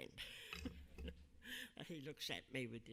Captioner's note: laughing